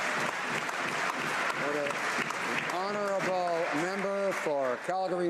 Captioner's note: some Applause